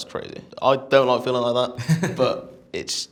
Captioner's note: chuckles